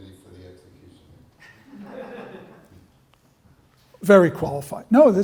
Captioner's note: laughter